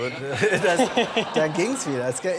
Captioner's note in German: Lachen im Publikum